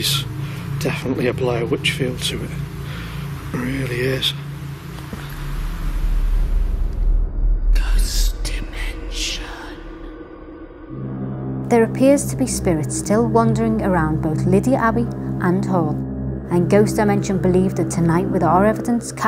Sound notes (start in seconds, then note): 8.2 ghostly Voice; 11.3 eerie music